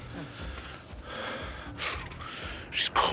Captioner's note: breathing heavily